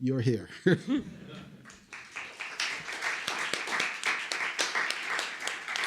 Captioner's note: applause